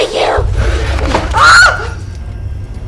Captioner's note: screaming; eerie music